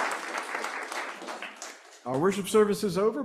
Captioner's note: applause